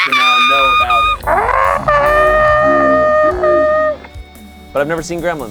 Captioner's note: screams; screams in slow motion